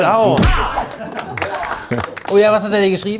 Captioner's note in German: Vereinzelter Applaus